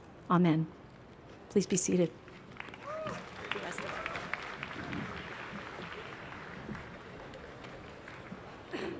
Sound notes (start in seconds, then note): 2.2 applause